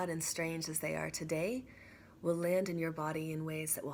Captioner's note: none